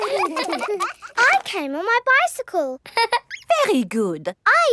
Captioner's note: all laughing; laughs